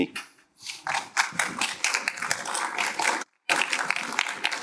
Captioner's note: applause